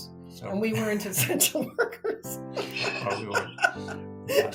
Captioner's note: laughs